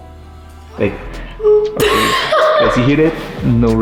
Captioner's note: laughing